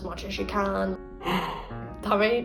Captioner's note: sigh